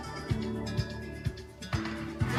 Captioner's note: audience applauding